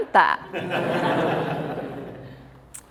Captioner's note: laughing